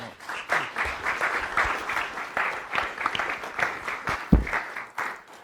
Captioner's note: applause